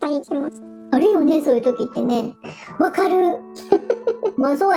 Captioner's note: laughs